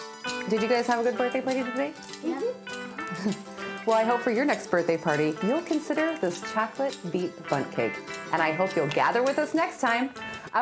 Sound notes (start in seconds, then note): 2.1 boys assenting